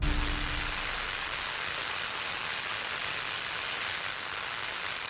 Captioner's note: radio static hissing